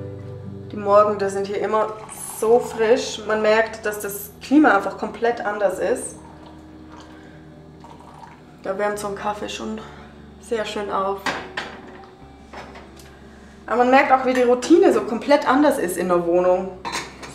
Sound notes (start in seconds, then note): none